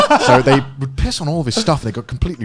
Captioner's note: laughing